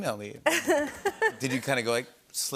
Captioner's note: laughter